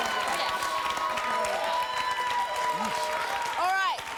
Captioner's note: applause